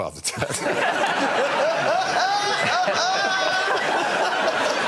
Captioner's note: laughter